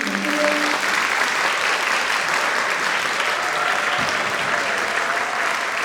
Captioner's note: audience applauding and cheering